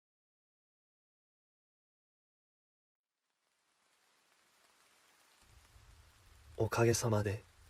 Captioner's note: rain falling